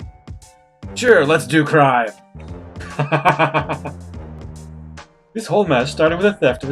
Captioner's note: laughs